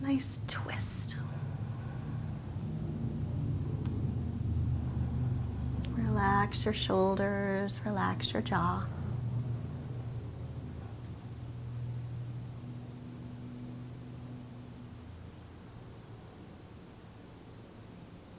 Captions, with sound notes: Nice twist. (breathing deeply) Relax your shoulders, relax your jaw.